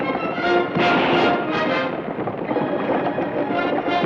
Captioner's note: gun fires